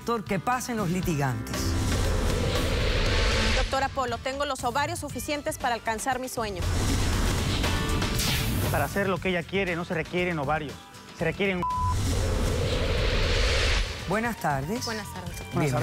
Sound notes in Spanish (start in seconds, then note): 11.6 Bip